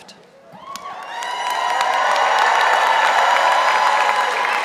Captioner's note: audience applauding